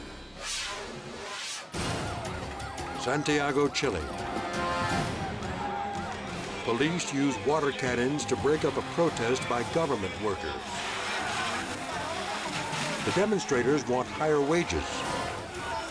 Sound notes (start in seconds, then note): 1.5 sirens wailing; 1.5 tense music; 10.6 water splashing